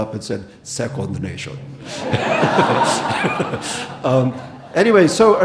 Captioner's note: audience laughing